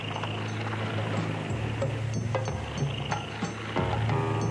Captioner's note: vehicles rumbling